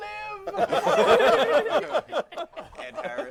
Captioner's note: laughter